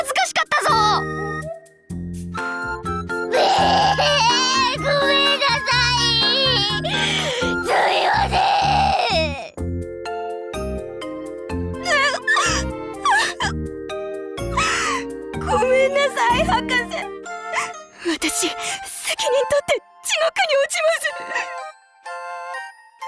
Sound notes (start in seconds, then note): 3.3 sobbing; 13.0 sob